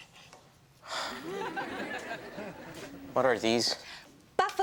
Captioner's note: sighs